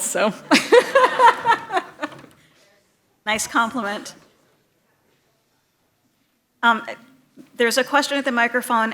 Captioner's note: laughter